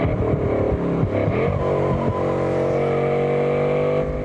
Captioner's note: tyres squealing